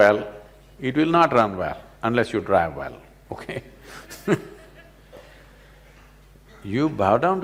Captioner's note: laughs